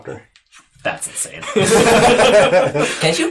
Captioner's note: all laugh